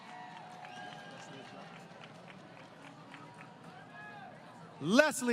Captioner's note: applause